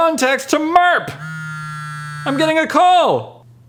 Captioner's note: ring ring